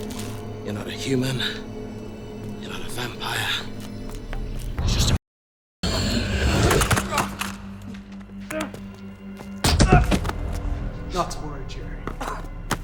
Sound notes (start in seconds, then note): 5.9 Jerry groans; 5.9 Max growls; 9.6 Jerry groans; 9.6 boot thumps